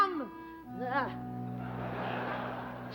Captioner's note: laughter